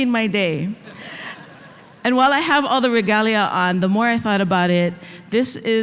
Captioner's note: laughter